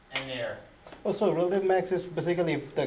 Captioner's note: voiceover